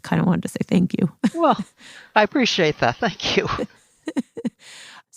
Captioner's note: laughs